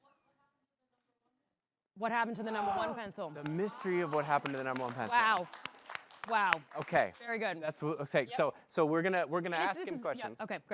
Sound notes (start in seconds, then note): 5.6 applause